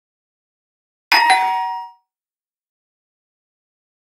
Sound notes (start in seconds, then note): 1.1 sound of doorbell